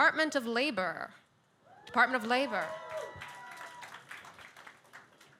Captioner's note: audience cheers